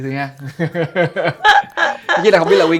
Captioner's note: laugh